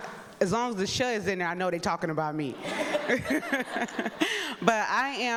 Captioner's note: laughs